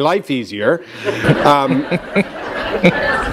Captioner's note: laughter